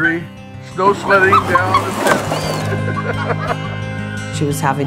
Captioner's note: laughs